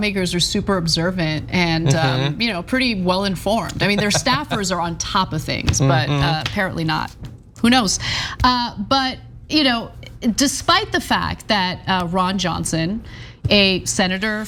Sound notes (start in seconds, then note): 3.6 laugh